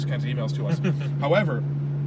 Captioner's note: laughs